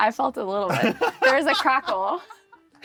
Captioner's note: laughs